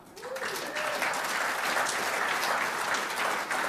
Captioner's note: applause